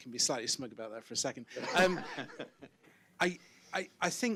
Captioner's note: audience and panel laughs